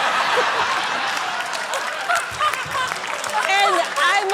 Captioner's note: laughter, applause